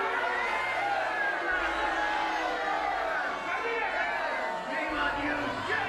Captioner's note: crowd yelling continues